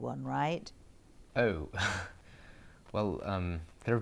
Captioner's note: Harry laughs